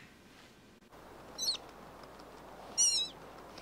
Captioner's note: squeaking